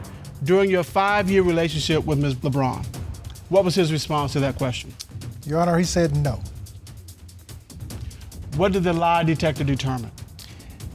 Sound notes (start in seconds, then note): none